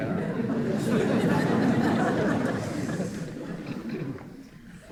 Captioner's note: audience laughing